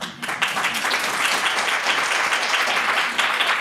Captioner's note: applause